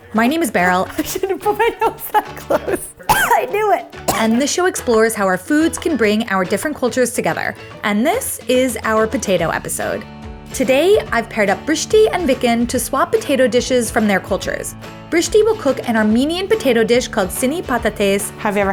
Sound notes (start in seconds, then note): 1.8 coughs